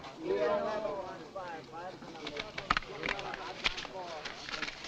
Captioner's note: men chattering nearby; cash rustling